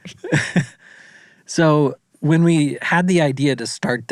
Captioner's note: laughs